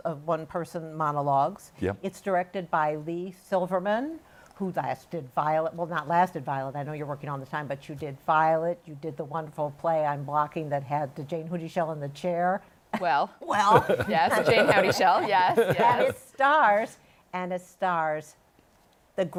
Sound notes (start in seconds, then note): 13.5 laughter